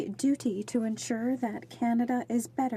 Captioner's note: speaking French